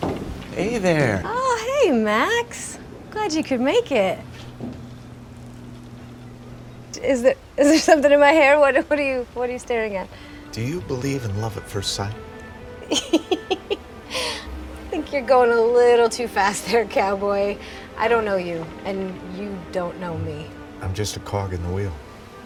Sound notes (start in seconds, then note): 12.8 giggles